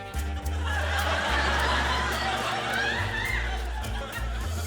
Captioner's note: laughter